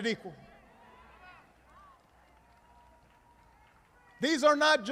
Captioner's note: applause